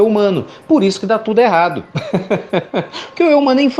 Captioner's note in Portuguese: Risos